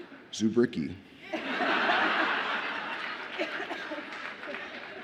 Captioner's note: audience laughs